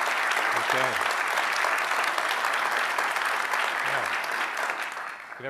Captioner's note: drowned out by applause